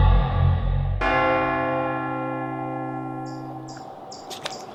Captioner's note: bell ringing